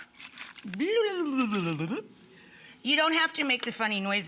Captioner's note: imitates gurgling noises